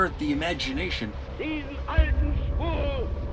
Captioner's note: soundbite of archived recording; non-English language spoken